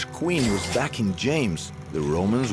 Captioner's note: dinging